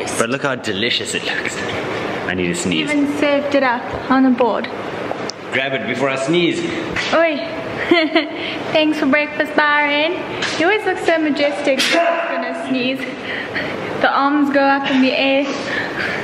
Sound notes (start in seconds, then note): 11.8 loud sneeze